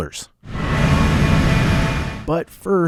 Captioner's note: machinery rumbling